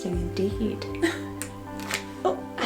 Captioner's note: laughing